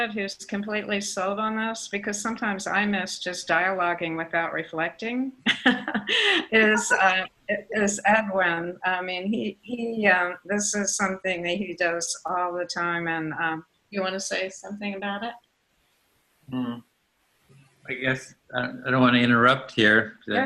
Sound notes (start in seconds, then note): 5.5 laughing